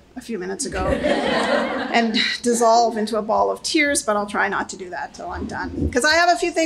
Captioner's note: laughter